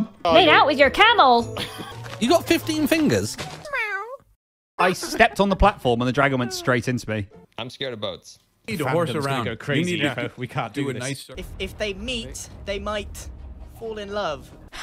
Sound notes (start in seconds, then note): 3.6 meows